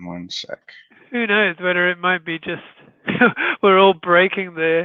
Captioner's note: chuckles